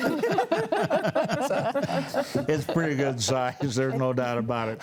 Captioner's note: panelists laughing